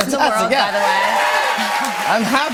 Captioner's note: cheers and applause